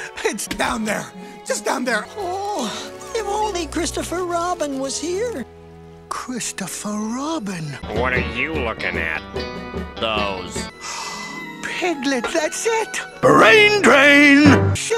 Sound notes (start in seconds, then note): 10.8 gasp